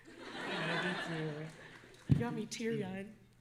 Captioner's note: audience laughing